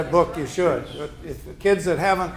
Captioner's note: group murmurs agreement